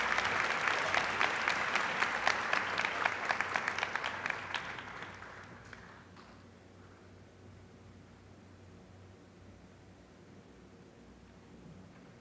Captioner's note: applause